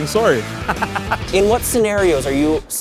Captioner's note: laughs